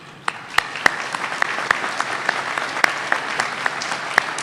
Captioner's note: applause